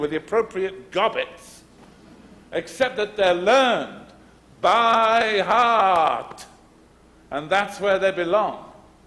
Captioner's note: pounds his chest